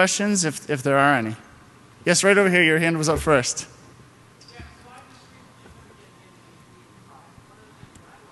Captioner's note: off mic